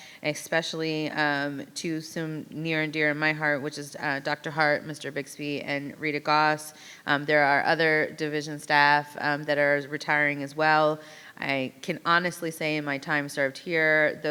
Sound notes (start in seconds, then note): none